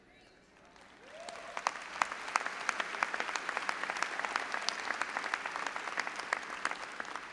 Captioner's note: all applauding and audience cheering